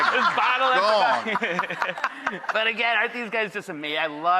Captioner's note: laughter